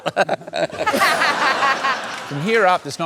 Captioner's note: laughter